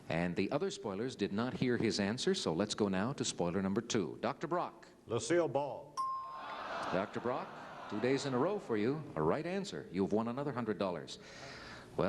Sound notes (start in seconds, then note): 6.0 bell ding